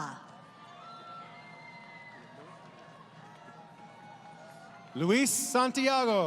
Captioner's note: crowd Cheering